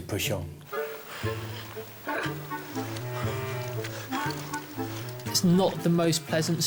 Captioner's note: light whimsical music; breathing heavily